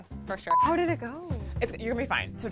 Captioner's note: monotonous high pitch sound